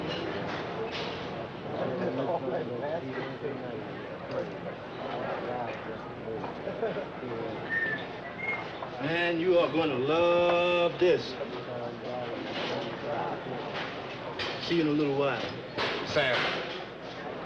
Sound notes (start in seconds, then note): 8.2 Sam whistling